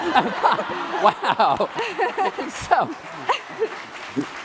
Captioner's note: laughing; applause